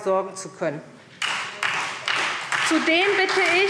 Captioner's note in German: Beifall SPD und DIE LINKE